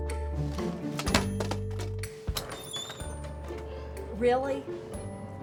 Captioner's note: object rattling